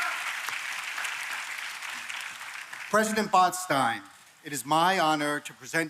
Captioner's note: applause